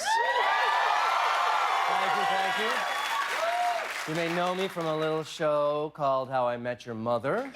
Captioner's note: cheers and applause